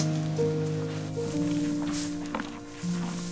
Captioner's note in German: Rascheln